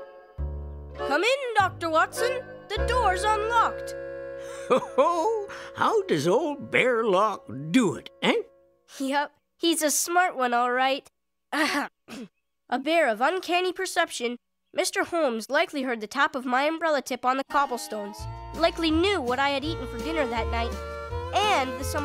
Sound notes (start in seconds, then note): 12.0 clearing throat